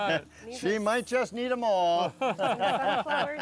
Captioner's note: all laughing